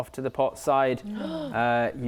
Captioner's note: gasp